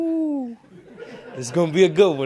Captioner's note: crowd laughs